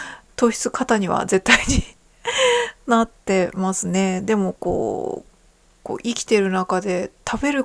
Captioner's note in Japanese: 息をのむ音; 笑い